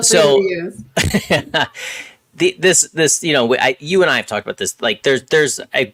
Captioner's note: laughs